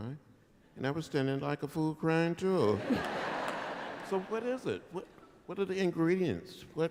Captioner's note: laughter